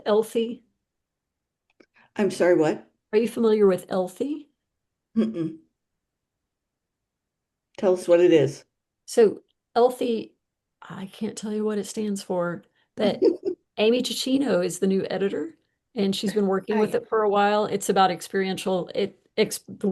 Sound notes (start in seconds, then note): 13.0 laughs